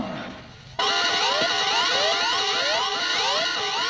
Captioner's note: alarms beeping